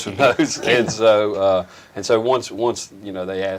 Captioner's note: chuckles